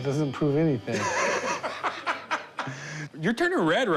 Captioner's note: laughs